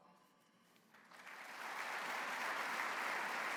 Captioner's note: applause